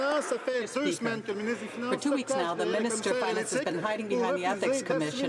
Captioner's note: some Applause